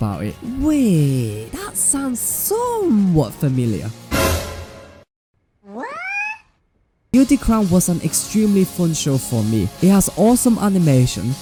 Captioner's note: slap